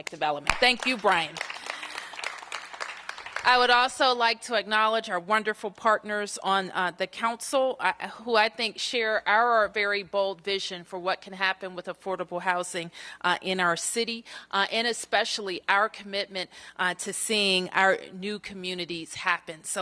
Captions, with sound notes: DEVELOPMENT. THANK YOU, BRIAN. [APPLAUSE] I WOULD ALSO LIKE TO ACKNOWLEDGE OUR WONDERFUL PARTNERS ON THE COUNCIL WHO I THINK SHARE OUR VERY BOLD VISION FOR WHAT CAN HAPPEN WITH AFFORDABLE HOUSING IN OUR CITY AND ESPECIALLY OUR COMMITMENT TO SEEING OUR NEW COMMUNITIES HAPPEN.